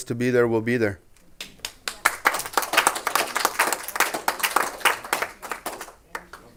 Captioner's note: clapping